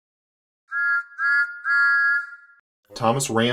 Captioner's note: Thomas Whistles